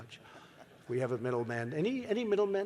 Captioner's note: laughter